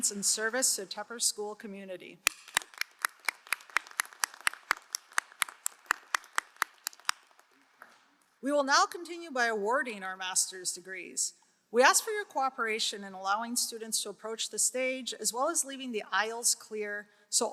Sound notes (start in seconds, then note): 2.2 crowd applauding